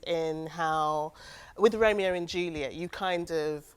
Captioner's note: none